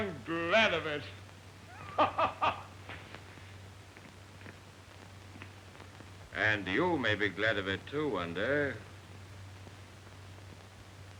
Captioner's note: laughing